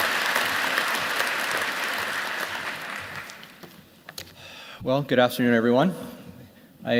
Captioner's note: applause